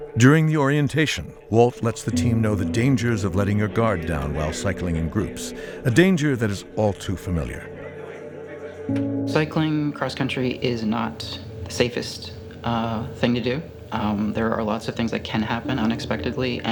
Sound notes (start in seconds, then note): 7.8 background chatter